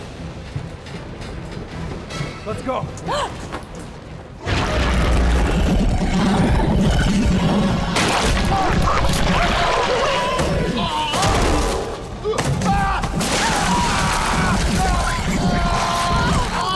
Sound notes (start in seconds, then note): 8.7 choking; 12.6 screams